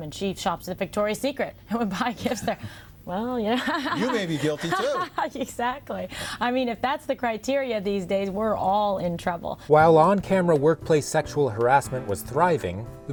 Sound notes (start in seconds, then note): 3.6 laughs